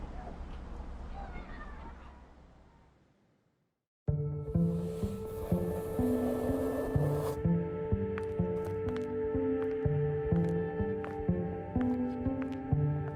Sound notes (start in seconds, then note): 3.6 subtle music; 6.6 wind blowing; 8.1 foot steps